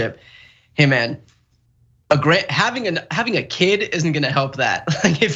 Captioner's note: laugh